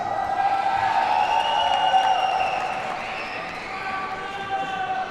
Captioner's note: audience cheers and applauds